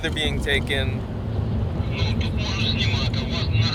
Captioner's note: over radio